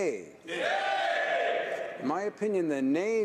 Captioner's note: some yays